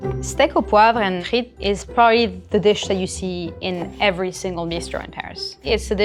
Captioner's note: none